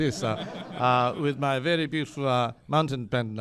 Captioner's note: laughter